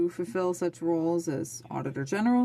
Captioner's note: speaking French